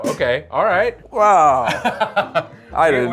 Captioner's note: laughs